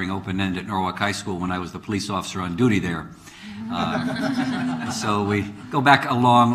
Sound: laughings

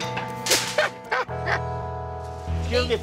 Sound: laughing

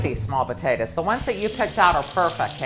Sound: water running

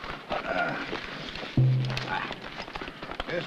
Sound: groans

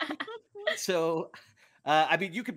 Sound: all laughing

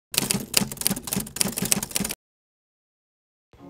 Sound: keyboard clacking

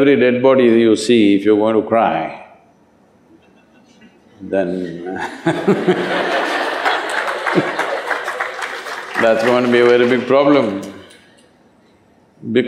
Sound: laughter

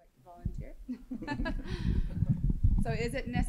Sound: group chuckles

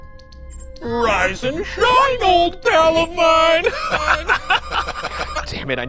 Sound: light music; laughs

